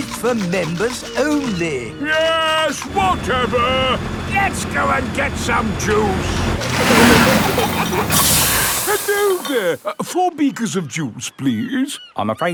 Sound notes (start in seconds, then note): 5.6 peppa and george giggling; 7.0 air hisses